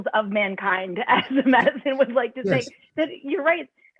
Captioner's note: laughter